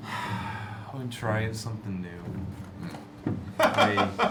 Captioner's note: sighs; laughs